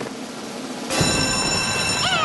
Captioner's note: bell rings